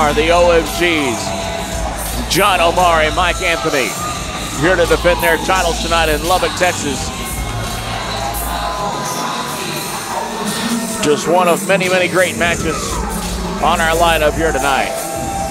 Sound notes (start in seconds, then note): 8.0 crowd cheering